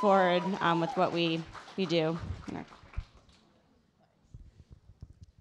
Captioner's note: audience applauding